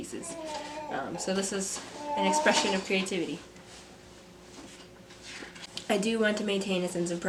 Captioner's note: babbling